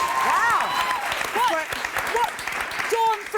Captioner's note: applause; cheering